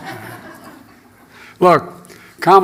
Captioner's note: laughter